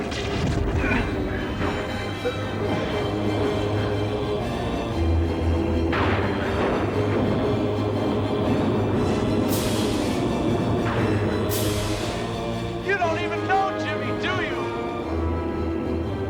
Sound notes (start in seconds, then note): 2.9 chanting voices